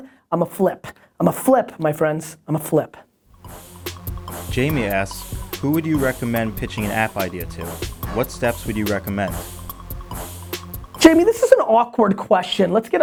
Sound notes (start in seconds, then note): 3.7 strong, beating music; 4.7 voiceover